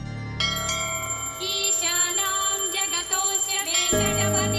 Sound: chanting

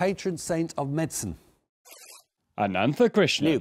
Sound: buzzer buzzes

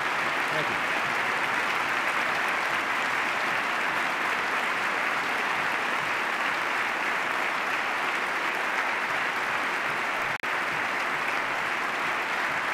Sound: extended applause

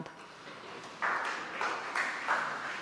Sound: applause

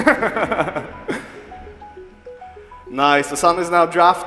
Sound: chuckling

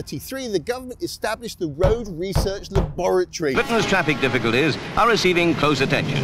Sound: plummy News Reel Voice

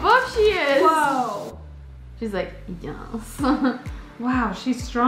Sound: laughs

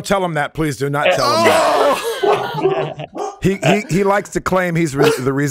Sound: everybody laughing

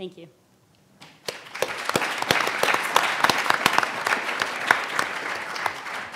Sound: panel and audience applauds

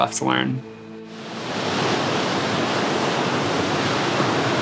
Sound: waves crashing

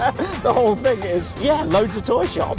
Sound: laughing

